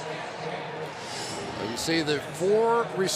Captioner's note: pa announcement